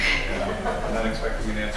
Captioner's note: laughter